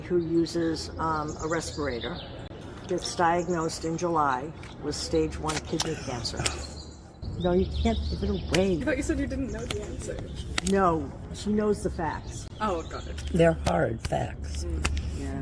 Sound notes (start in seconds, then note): 5.9 gasps:“Ohhhh….”